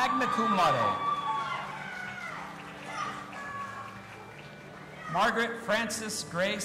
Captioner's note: audience applauding and cheering